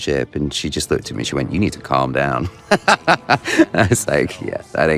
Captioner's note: laughs